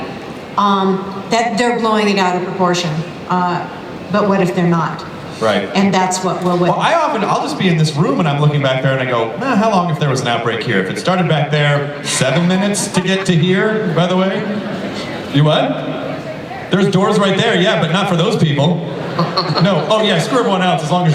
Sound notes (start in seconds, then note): 15.8 voiceover